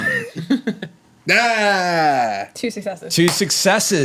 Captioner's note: groans